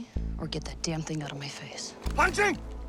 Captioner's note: speaking mandarin